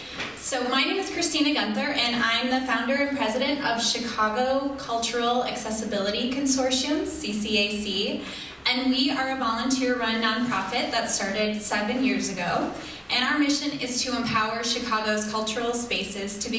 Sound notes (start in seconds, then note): none